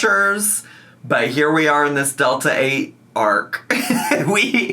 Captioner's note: laughs